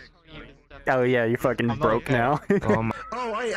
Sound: laughing

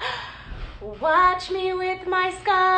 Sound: gasping

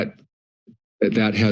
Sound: pause

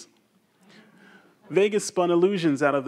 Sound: audience members chuckle quietly

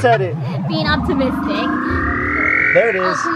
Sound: machine buzzing

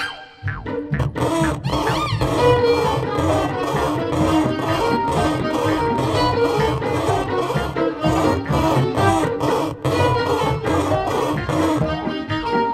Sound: lively music; sawing sound; lively music

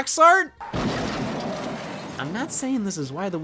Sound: crashing noise

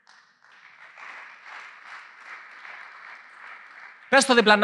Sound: applause

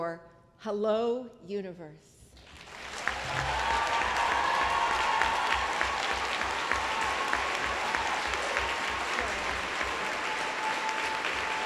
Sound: applause

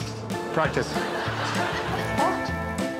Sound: audience laughing

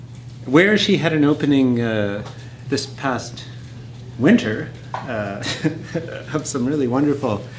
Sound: laughs

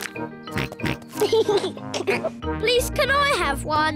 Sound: chuckles; snorts, chuckles

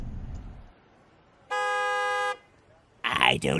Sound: honk

